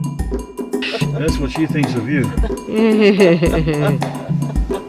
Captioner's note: laughter